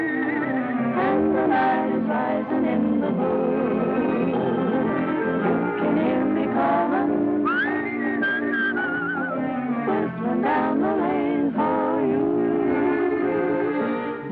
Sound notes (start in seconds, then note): 0.8 singing; 7.4 whistling; 10.4 singing